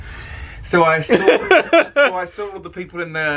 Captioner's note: laughing